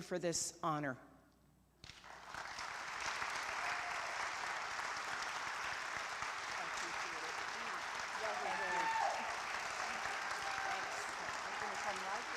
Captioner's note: applause